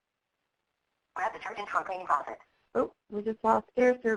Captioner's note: garbled computer speaking